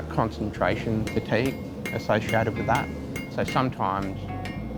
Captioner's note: hammering